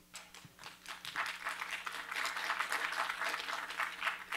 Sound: applause

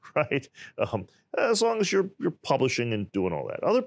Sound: laughs

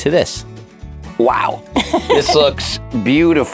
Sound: laughs

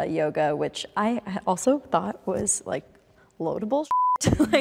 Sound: beep

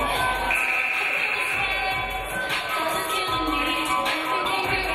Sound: game buzzer buzzes

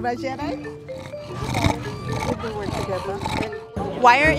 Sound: dog breathing heavily

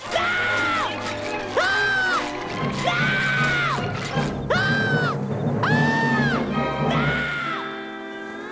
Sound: screaming; SpongeBob screaming

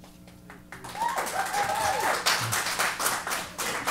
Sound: applause

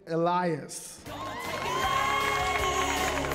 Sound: cheering; rock music

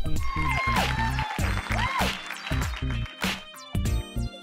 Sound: cheers and applause

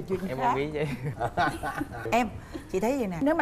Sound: laughing

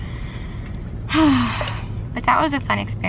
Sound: sigh

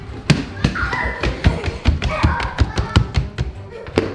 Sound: girl giggling

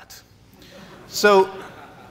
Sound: laughs

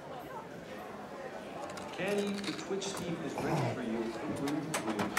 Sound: crunching

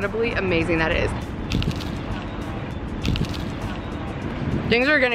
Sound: cone crunches

